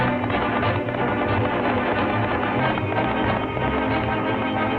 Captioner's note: lively orchestral music; horse galloping; lively orchestral music